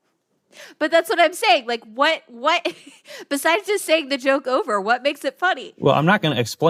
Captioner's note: laughs